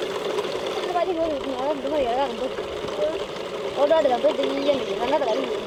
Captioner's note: speaking foreign language